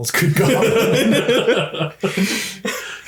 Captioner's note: laughs